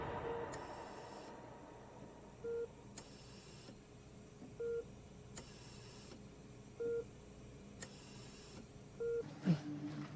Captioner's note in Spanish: Sonido de telemetría